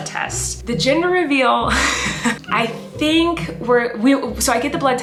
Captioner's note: laughing